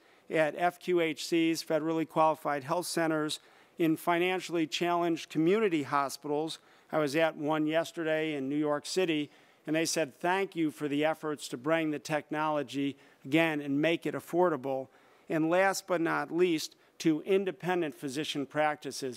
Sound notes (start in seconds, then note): none